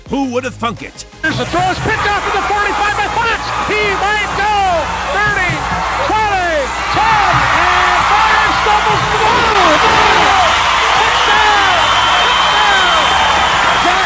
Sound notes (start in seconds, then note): 7.7 crowd cheers; 9.5 crowd cheers; 12.6 crowd cheers